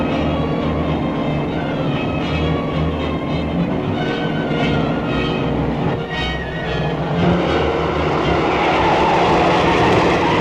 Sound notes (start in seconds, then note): 8.1 tires screeching